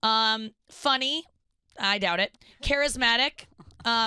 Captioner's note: none